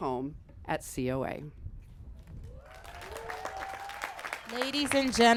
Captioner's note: applause